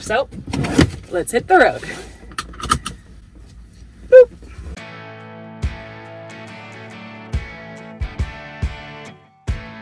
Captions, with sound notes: So let's hit the road. (seatbelt clicks) Boop. (upbeat rock music)